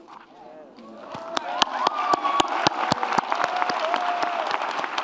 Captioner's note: audience cheers and applauds